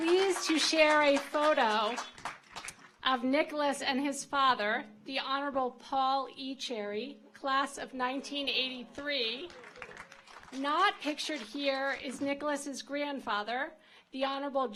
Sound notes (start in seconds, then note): 9.4 audience applauds